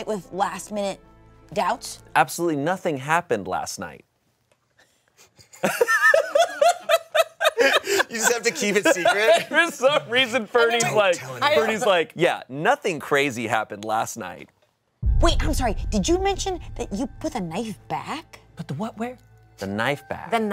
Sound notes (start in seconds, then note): 5.8 laughs